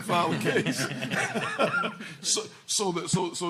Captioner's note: laughing